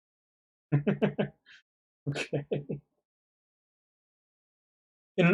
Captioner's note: laughs